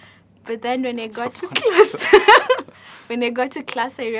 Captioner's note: laughing